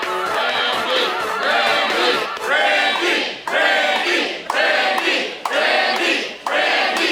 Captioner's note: crowd